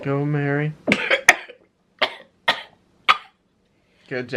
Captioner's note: coughing